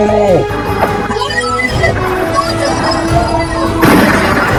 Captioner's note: scream